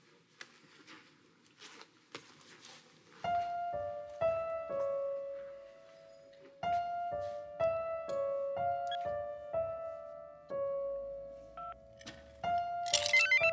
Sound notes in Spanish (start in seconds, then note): 10.4 Bip